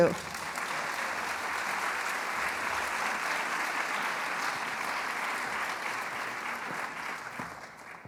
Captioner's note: applause